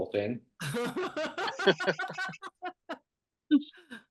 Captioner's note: laughter